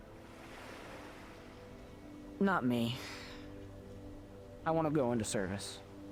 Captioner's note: inhales; exhales